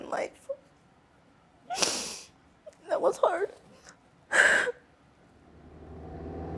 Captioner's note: sniffles